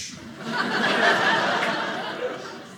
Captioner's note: audience laughing